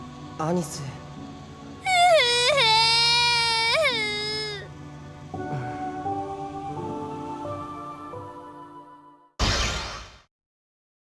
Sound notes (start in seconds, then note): 1.8 all the sobs